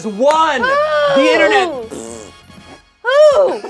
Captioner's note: blows raspberry